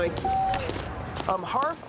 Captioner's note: phone beeps